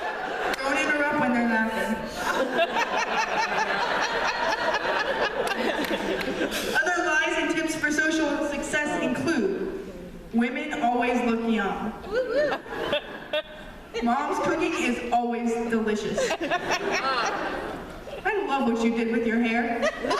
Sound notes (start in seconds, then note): 0.0 laughter; 2.1 laughter; 12.1 woo woo and laughter from audience; 16.1 laughter